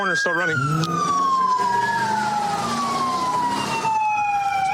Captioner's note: engine revving